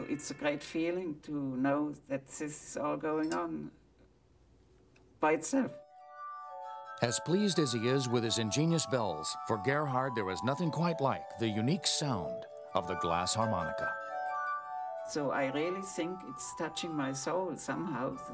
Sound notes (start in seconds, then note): 7.2 voiceover